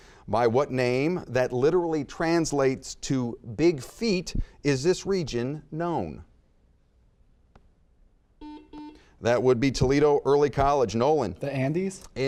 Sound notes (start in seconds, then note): 8.4 buzzer beeping